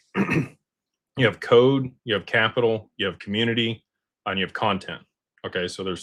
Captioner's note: clears throat